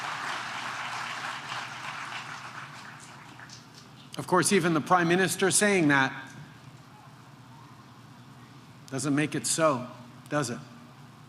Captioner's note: applause